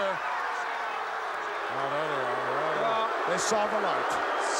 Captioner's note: audience booing